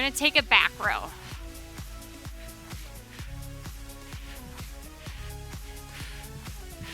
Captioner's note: upbeat music continues; breathing deeply